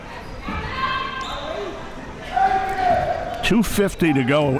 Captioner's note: spectators shouting